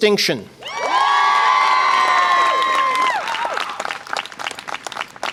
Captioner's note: audience applause and cheer